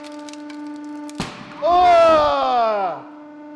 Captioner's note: both yell